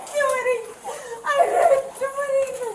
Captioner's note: crying